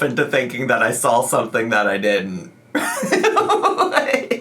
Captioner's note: laughs